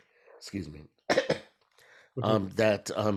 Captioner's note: coughs